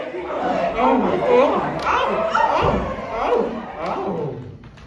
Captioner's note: group gasping